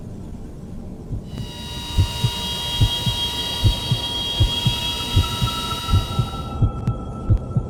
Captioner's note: eerie music; heart beating